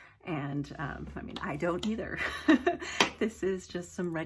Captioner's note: laughs